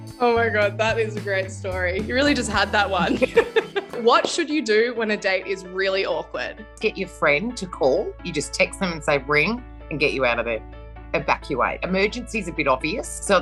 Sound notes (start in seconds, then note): 3.0 laughs